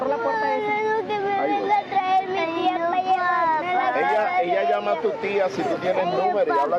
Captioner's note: crying children